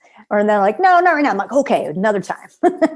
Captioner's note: laughter